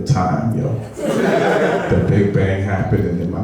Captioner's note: laughing